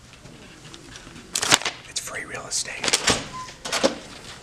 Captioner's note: whispers